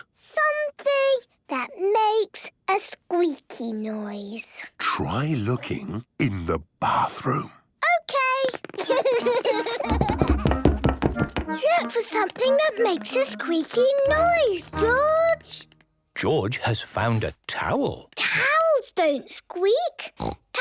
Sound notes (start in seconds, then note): 4.8 whispering; 8.7 Peppa and George laughing; 9.6 loud footsteps